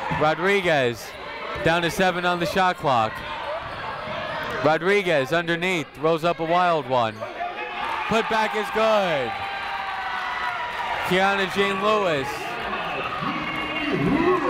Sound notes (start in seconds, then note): 9.5 people cheering in the crowd